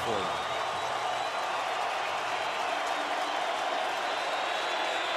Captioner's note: cheering